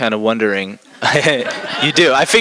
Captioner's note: laughter